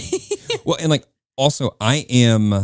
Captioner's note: laughing